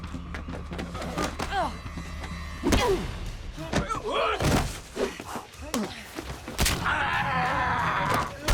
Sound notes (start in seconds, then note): 6.4 bone cracks; 6.8 screams